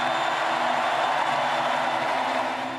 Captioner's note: chanting/cheering/chaos on floor